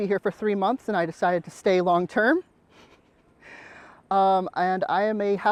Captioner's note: laughs